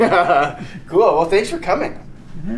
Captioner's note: laughs